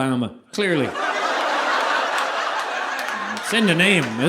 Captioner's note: audience laughing